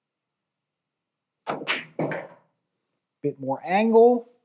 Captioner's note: balls clacking